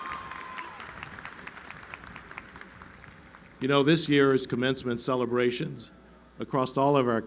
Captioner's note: applause